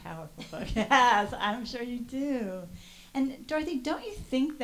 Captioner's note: laughs